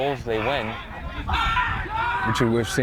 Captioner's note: players shouting